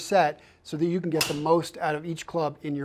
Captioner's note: golf ball pings